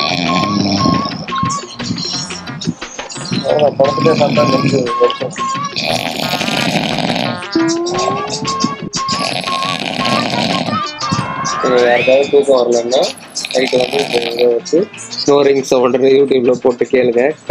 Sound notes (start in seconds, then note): 0.0 snores; 5.6 deep snoring